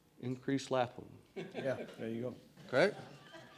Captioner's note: laughter